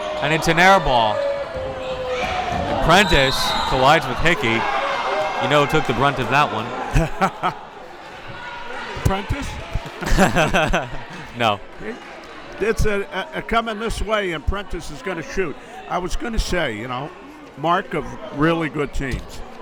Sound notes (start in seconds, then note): 9.4 laughs